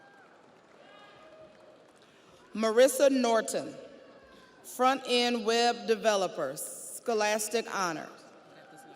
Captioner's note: audience cheers; audience applauds